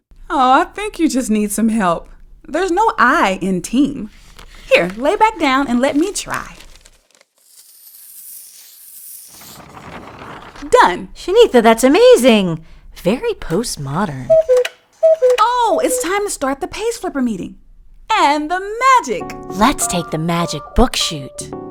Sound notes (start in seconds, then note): 7.4 sound of crayon on paper; 14.9 cuckoo clock goes off